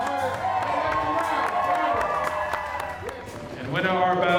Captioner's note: attendees cheering and clapping